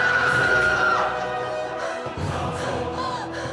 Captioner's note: screaming